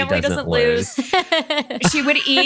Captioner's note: laughs